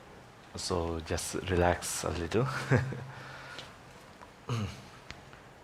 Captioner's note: chuckles